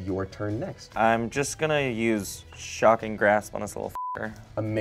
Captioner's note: beep